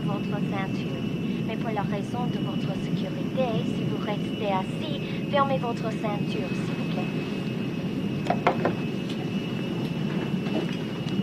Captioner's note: speaking foreign language